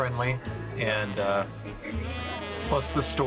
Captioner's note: people chatting